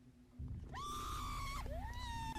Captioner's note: actors screaming on TV